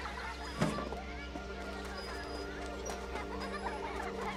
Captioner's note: children Laughing